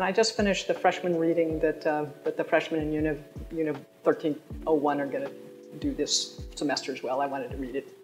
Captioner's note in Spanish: Habla en Frances